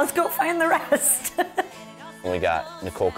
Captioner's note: laughs